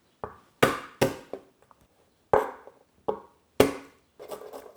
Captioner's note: knife thumping